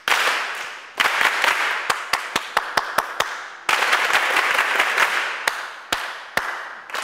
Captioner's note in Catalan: piquen de mans, creant ritmes